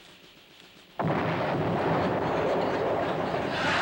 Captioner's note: explosion; laughter